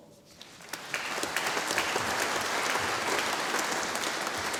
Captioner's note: audience applauding